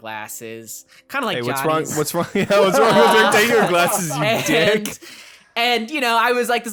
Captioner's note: laughs